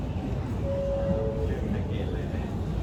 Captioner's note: train alert chimes